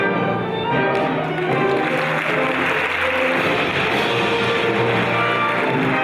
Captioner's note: audience applauding